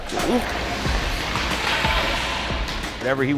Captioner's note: skates sliding